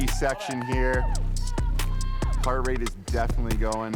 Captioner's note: all cheer